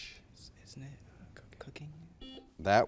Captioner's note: students whispering; buzzer beeps